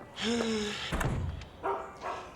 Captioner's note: Nora sighs; dog barks